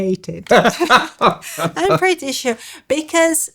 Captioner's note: laughs